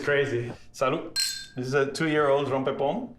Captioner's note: glasses clink